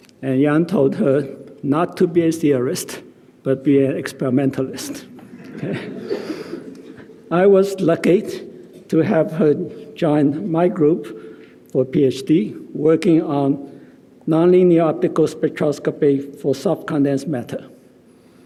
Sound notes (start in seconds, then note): 5.3 audience laughing